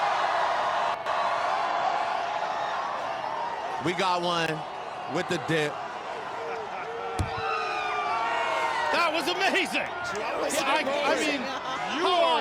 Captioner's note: cheers